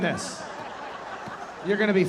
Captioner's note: audience laughing